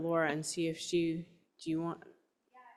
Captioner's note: speaker off mic